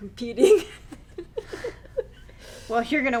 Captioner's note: laughing